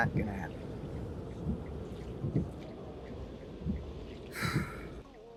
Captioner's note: engine rumbling